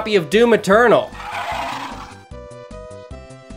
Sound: DOOM Imp Yell sfx

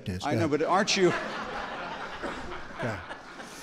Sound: laughter

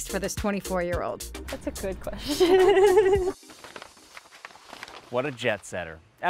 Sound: laughing

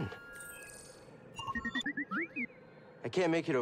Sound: eager beep

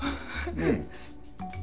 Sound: laughs

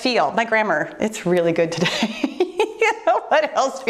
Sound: laughs

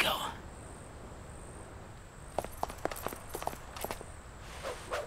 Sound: insects chirping

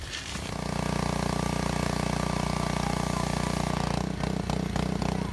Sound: motor sounds

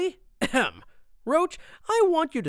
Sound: clears throat

